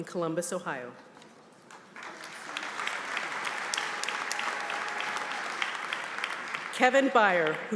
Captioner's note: applause